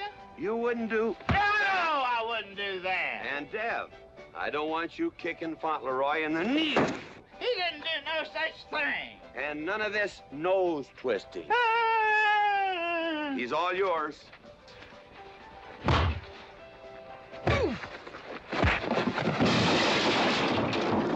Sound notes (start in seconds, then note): 1.3 thump; 6.6 whack; 15.8 thud; 18.5 thud; 18.6 big crash; 19.4 wham